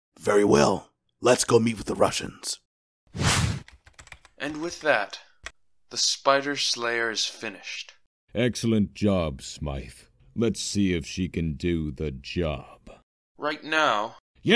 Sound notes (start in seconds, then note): 3.2 scene change whoosh; 3.6 keyboard typing